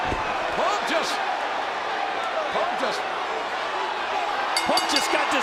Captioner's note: bell rings